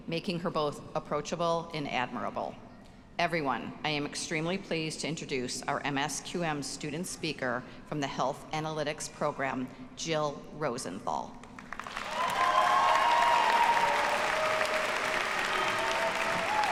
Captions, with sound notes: making her both approachable and admirable. Everyone, I am extremely pleased to introduce our MSQM student speaker from the Health Analytics program, Jill Rosenthal. (audience cheers and applauds)